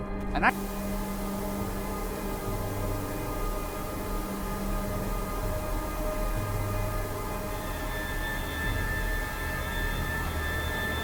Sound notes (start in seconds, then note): 2.1 white noise; 6.5 tense music